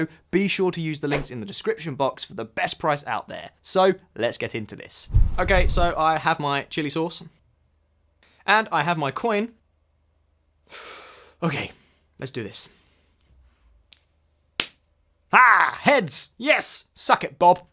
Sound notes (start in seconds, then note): 10.7 deep breath